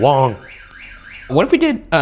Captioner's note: motion alarm blaring upstairs